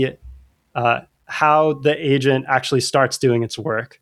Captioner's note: uh